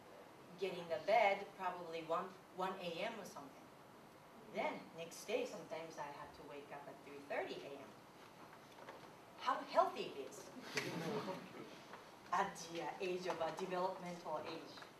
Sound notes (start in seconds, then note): 10.7 laughter and clap